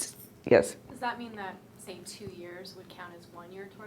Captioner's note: voiceover